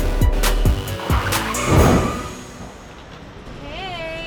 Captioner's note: upbeat music; cars screeching